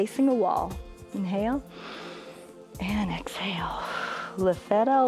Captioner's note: inhales; exhales